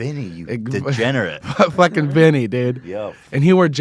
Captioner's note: laughs